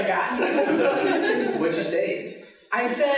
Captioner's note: laughing